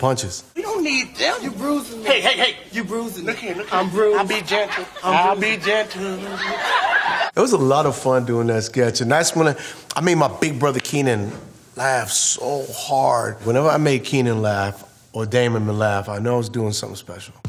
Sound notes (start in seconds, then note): 6.7 crowd laughing